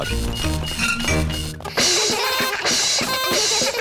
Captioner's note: items clinking; all laugh